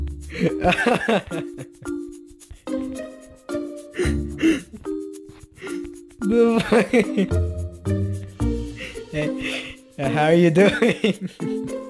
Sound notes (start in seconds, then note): 3.8 inhale, inhale, and small inhale